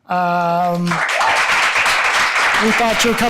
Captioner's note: audience applauding